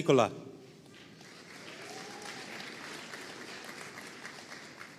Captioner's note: audience applauding